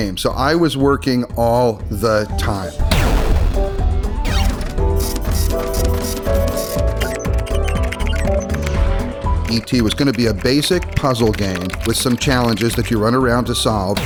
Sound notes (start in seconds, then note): 3.0 digital beeping; 3.0 upbeat music